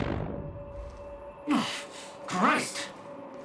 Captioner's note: grunts